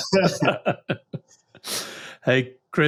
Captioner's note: chuckle